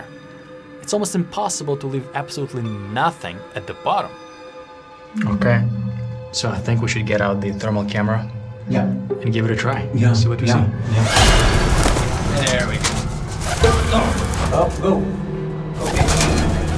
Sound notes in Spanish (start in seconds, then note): 13.9 gruñe